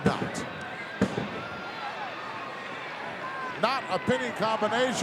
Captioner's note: crowd yelling